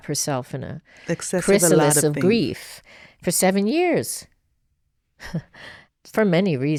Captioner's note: laughs